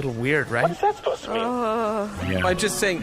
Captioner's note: Dar groans